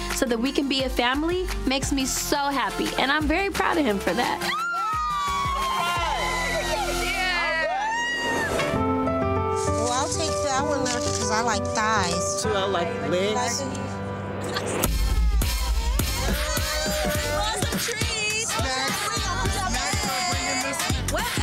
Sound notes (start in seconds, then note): 4.4 all cheer; 8.4 upbeat music; 15.5 upbeat music